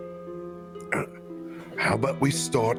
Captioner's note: soft grunt